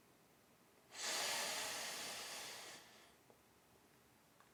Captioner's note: man inhaling